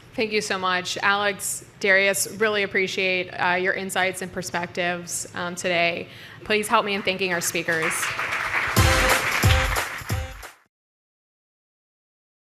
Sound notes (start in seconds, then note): 7.0 audience claps